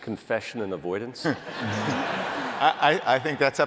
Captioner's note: laughter